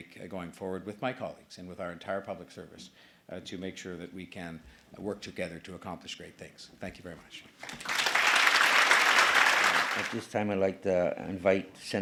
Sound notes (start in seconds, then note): 7.6 applause